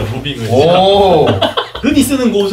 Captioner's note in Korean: 웃음소리